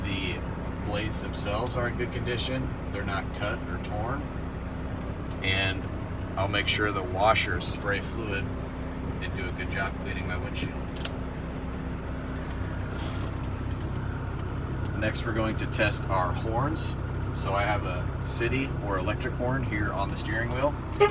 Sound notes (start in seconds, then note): 13.0 wipers squeaking